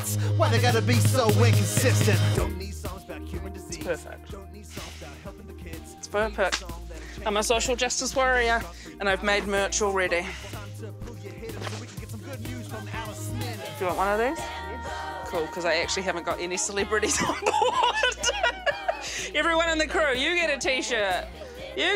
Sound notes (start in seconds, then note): 17.0 laughs loudly